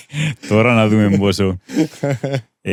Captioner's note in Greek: γέλια